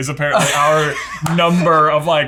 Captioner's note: laughing